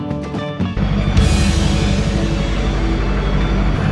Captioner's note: fangirl